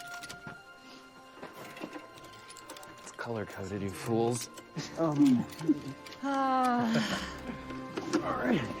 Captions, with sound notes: It's color-coded, you fools. -Um... okay -[Tipper sighs] All right, I get it.